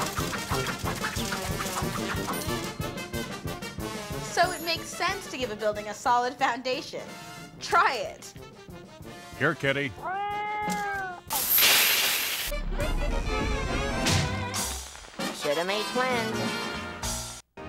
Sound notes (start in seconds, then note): 10.0 cat meows; 11.3 coins falling